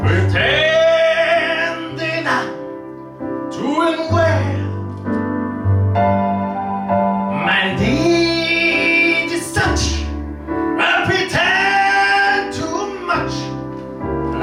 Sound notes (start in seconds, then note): none